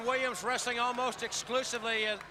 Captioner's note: crowd cheering